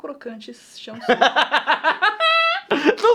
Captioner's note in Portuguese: risos